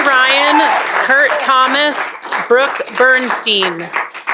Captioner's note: cheering and applause